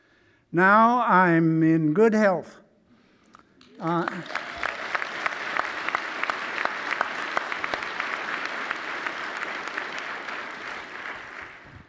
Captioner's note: applause